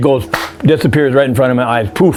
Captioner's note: clapping